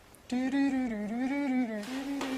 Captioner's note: HUMMING <i>TWILIGHTZONE</i>THEME